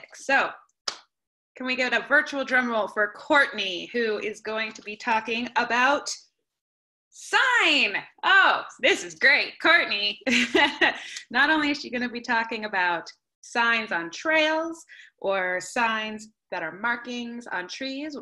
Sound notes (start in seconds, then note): 10.2 laughter